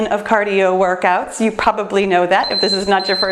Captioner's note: timer beeps